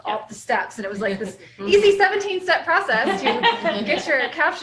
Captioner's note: laughter